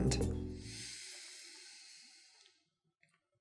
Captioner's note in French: inspire profondément